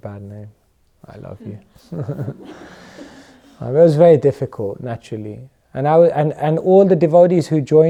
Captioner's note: chuckles